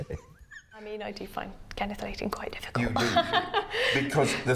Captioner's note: laughs